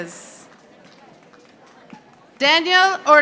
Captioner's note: audience applauding